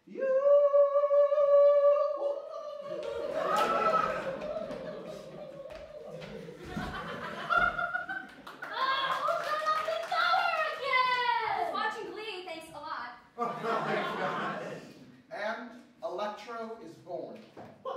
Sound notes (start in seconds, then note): 2.0 on-pitch-while-being-electrocuted noises; 6.7 laughter; 13.4 laughter